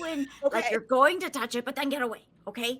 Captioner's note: laughing